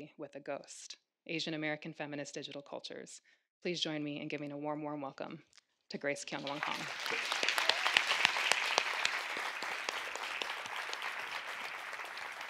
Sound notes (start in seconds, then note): 6.4 audience clapping